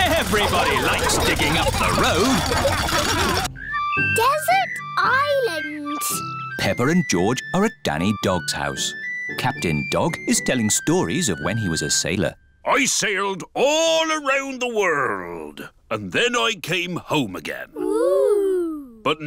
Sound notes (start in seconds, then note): 2.9 laughter